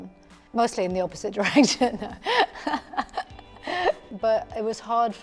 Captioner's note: she laughs